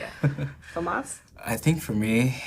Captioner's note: laughing